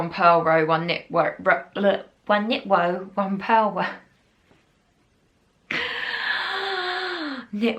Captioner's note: sigh